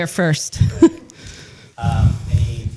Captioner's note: laughter